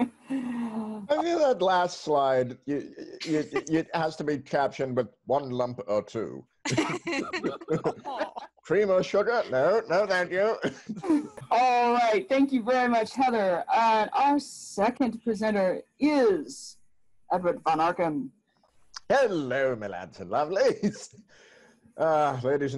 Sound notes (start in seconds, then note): 6.6 laughter